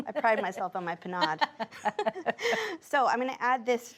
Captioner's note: both laugh